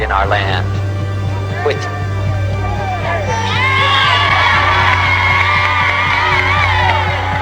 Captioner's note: interrupted by applause